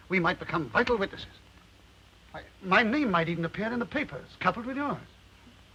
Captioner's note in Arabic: none